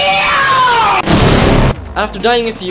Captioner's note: boom